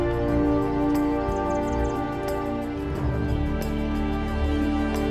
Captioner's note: dramatic orchestral music; birds twittering